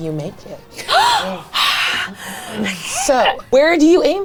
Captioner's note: gasps